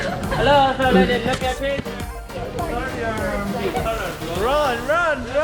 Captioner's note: speaking foreign language